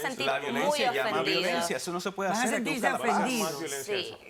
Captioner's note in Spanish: Hablan al unísono